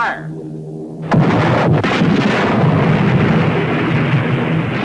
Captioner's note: cannons firing